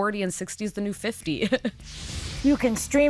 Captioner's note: laughs